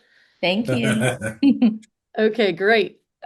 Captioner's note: chuckles